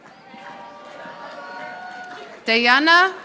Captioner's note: audience applauding